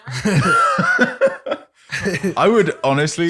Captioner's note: laughter